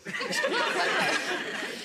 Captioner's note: gallery laughs; laughs